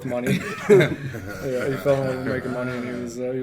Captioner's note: men laughing